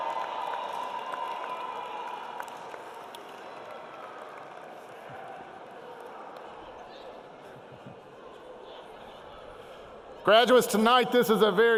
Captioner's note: cheering